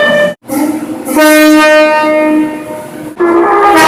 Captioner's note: air Horn; air Horn + Music Horn